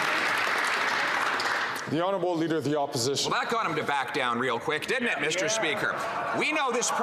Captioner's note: some Applause